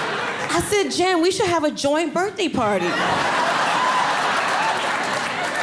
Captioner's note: audience laughing